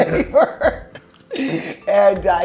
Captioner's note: laughs